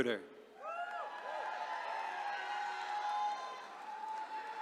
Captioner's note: attendees cheering